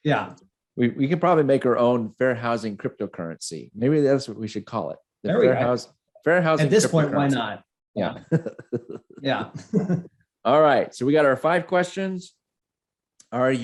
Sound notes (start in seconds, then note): 8.2 laughing